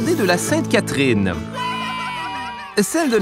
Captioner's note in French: exclamations enthousiastes